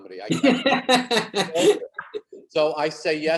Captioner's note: David laughs